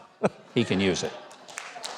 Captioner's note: audience chuckles; audience applause's